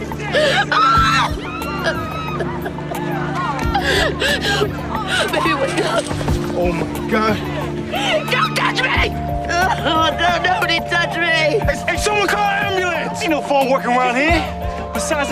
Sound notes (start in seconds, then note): 0.6 screams; 10.1 weeping